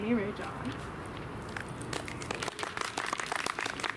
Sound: clapping

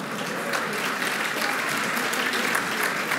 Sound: applause

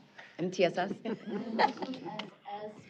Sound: laughter

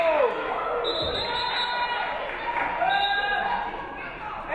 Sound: referee whistles

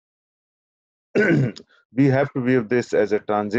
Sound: clears throat

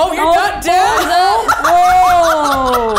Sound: laughs

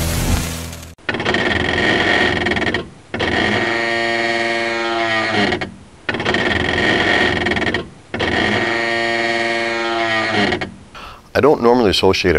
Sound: groaning/Creaking Sound

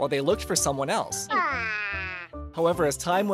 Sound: Snoopy moaning

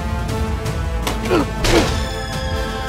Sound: thief grunting

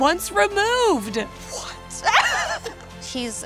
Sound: laughs

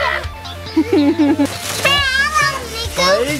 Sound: giggles; squealing

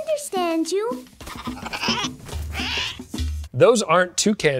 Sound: toucan squawks; toucan chitters

